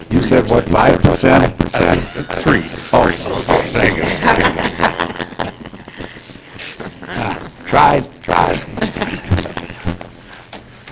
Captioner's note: laughter